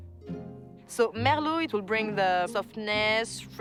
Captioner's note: with French accent